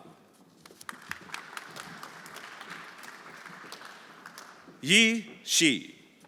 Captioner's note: everyone applauding